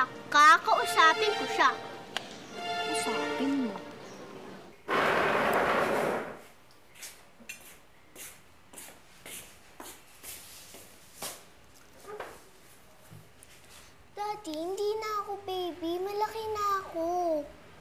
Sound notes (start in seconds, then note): 4.1 chair creaking